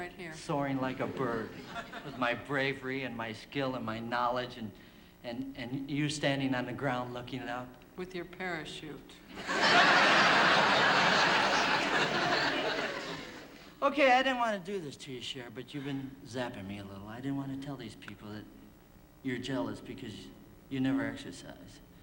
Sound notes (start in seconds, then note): 9.3 laughter